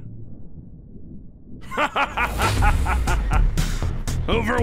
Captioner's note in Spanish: Risas